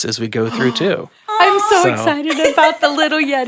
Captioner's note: gasps